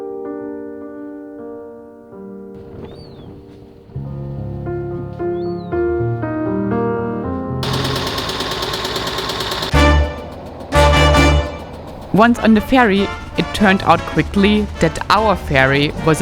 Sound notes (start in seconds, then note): 0.0 soft music; 7.5 engine roaring